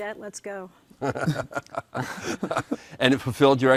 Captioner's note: laughing